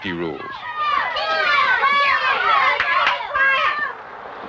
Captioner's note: shouting and cheering